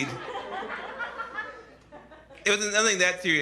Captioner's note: laughter